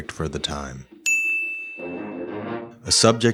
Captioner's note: bell chiming